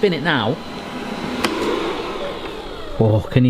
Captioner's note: fryer revvs